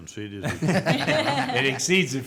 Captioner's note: group laughing